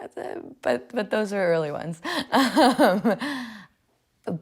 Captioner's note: laughs